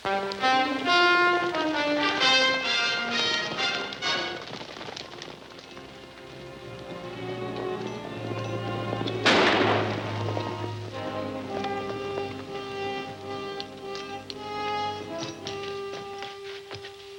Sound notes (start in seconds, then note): 0.2 upbeat music; 9.2 gun firing